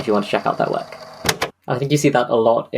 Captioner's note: tape recorder clciks off